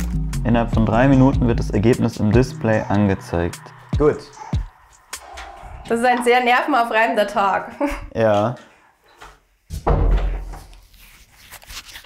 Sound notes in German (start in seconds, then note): 9.6 Dumpfes Türschließen